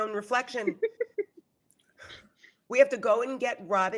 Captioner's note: laughing